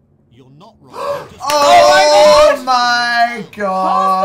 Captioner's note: gasp